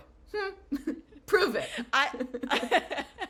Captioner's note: laughter